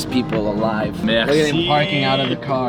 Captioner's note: speaking faintly